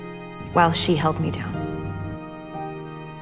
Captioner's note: voiceover